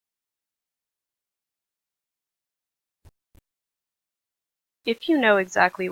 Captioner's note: silence